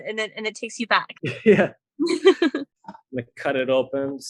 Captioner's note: laughing